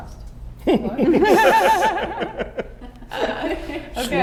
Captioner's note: all laughing